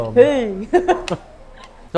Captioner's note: laughs